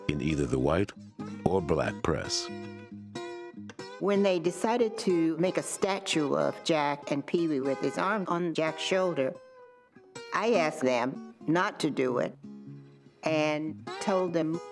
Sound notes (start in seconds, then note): 4.2 voiceover